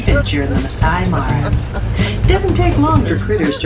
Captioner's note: laughter ... !